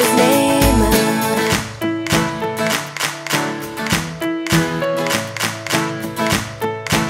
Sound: clapping

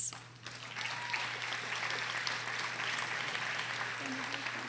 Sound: audience applauding

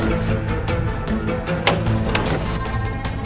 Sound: door creaks open

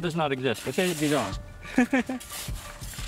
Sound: laughs

